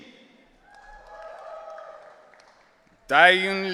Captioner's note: audience cheering